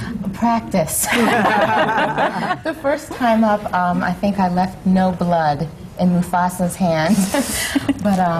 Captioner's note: laughter